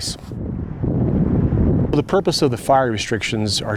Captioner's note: wind blowing